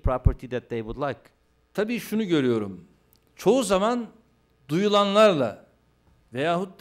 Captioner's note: non-english speech